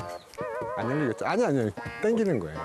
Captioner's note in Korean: 낑낑